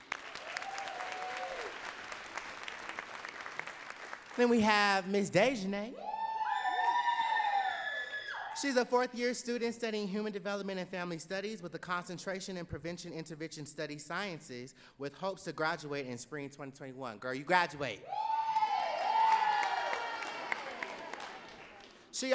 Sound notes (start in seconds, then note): 0.0 audience cheering and clapping; 6.0 audience cheering; 18.0 audience cheering and clapping